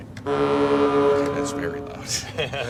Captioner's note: horn